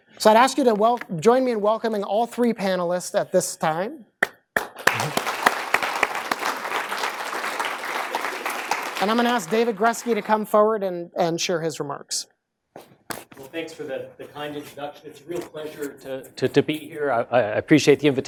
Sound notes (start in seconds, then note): 4.5 applause